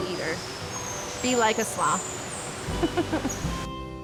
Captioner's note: laughing